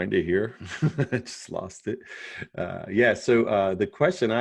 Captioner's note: chuckles